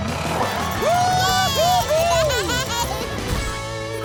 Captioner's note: cheering